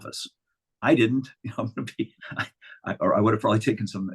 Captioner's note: chuckling